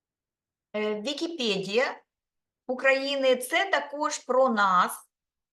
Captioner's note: speaking Ukrainian